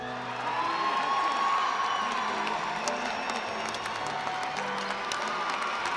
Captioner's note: attendees cheering and applauding